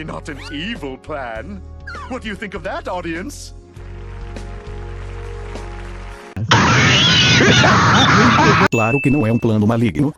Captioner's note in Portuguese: risadas